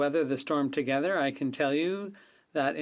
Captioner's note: speaking French